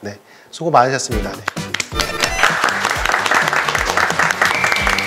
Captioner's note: clap, clap, clap, clap